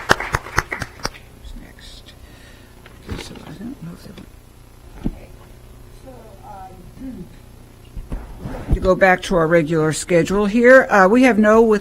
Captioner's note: applause